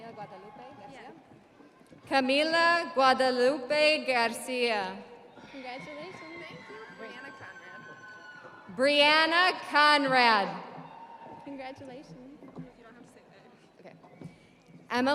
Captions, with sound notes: (audience cheering) Camila Guadalupe Garcia. (audience applauding) (audience cheering) Brianna Conrad.